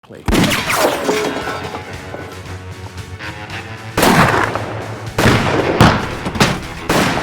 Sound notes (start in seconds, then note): 3.9 gunshots